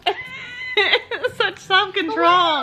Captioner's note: laughs